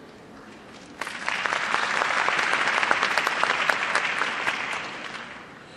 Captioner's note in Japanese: 拍手